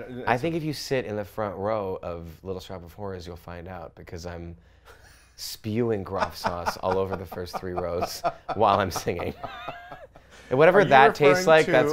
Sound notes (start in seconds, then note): 6.1 laughs